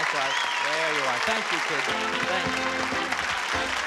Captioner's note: applause